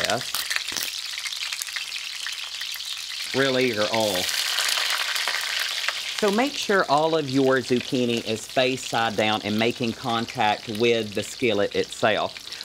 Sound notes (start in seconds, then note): 0.3 loud pops; 1.7 crackling; 4.5 popping and bubbling